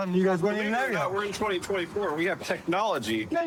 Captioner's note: none